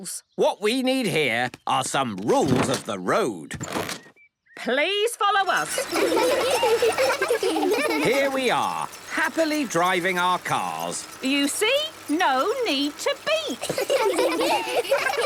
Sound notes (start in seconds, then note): 5.5 laughter; 13.6 laughter